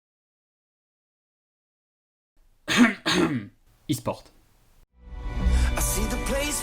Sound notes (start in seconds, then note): 2.6 cough cough